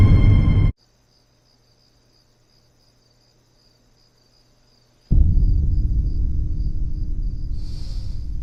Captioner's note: crickets chirp